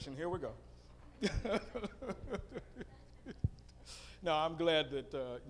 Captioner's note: laughing